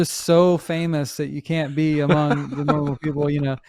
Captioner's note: laughs